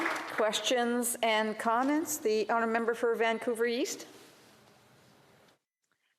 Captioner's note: applause